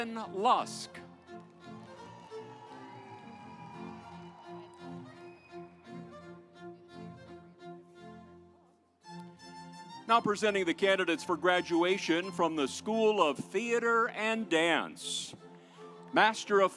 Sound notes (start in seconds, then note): 1.0 audience applauds